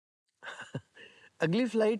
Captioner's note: laughs